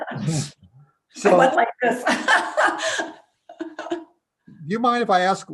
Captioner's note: laughing